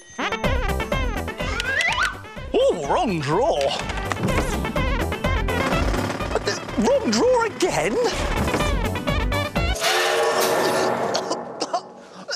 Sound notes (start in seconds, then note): 5.4 drilling; 10.7 steam train whistle